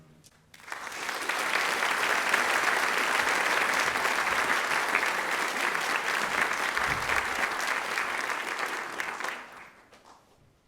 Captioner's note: applause